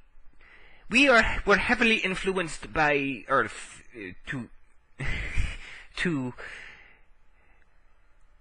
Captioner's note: chuckle